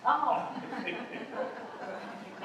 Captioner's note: laughter